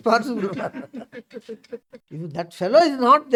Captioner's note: laughs